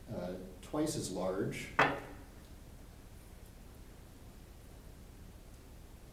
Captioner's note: weight thuds on table